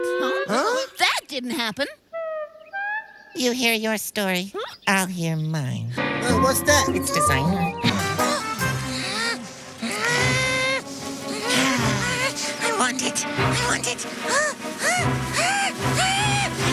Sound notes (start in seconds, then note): 8.2 Stingy gasps; 13.9 Stingy hyperventilates